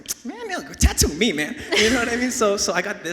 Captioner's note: laughs